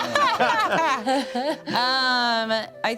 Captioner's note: laughs